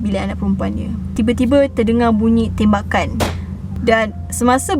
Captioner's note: gun pop's sound